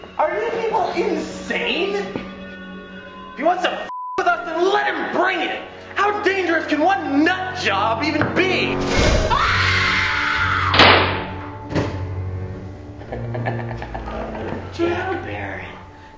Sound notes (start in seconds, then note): 9.2 screaming; 10.8 gun firing; 12.9 laughing